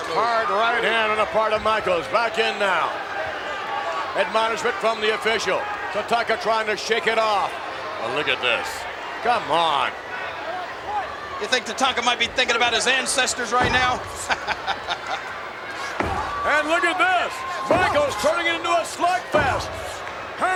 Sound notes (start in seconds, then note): 14.0 chuckles